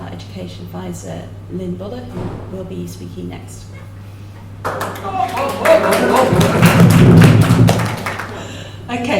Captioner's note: applause